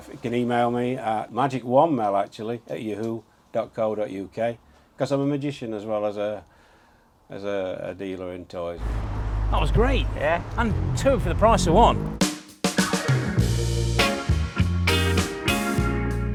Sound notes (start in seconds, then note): 8.8 car engine revving; 12.7 bright, upbeat music